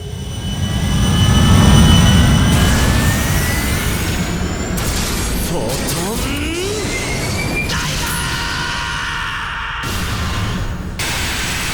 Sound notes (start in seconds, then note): none